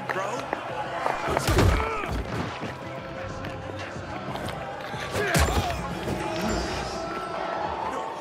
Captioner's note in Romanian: Aplauze